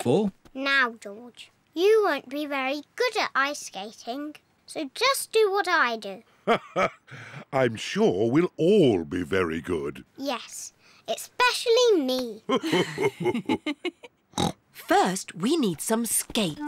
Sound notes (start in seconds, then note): 6.4 laughs; 12.4 laughs; 12.5 laughs and snorts